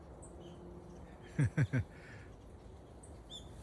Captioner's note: laughing